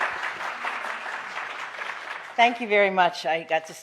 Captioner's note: applause